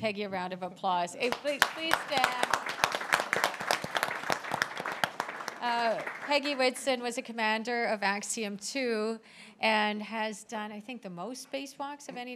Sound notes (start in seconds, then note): 4.2 applause